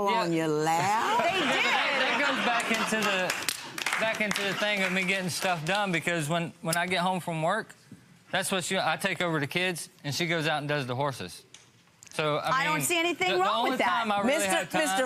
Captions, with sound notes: - Horses don't fall on your lap. - They did! (laughing) So, I mean, the only time - I don't see anything